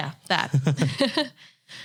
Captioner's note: both laughing